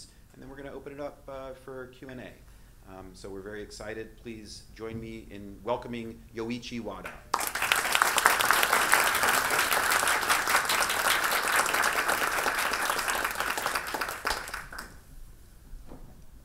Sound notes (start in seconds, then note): 7.3 audience applauding